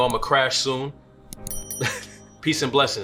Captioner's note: bell dings and laughs